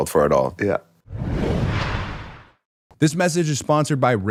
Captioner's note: logo whooshing